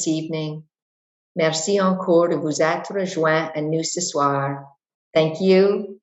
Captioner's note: speaks in French